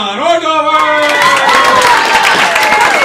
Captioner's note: applause